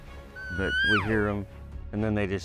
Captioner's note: imitating elk call